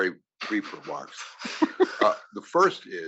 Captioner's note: laugh